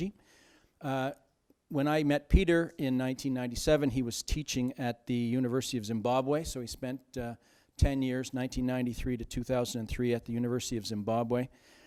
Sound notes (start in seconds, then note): none